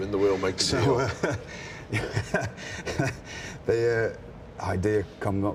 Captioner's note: William laughs